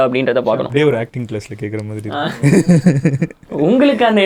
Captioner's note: laughs